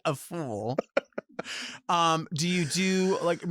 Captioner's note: laughs